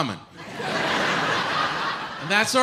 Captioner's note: audience laughs